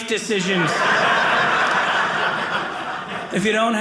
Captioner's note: audience laughing